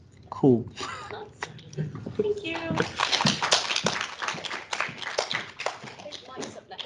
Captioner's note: clapping